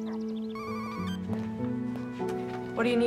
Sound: Lauren's phone rings

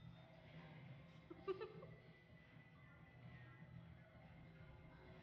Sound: female giggling

